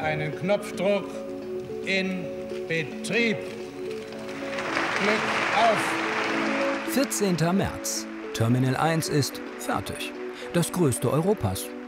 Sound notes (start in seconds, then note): 4.2 applause